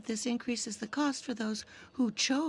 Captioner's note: speaking french